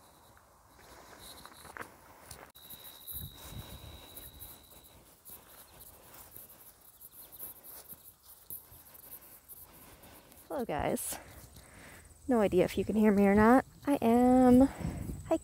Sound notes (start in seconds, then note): 2.9 crickets and cicaidas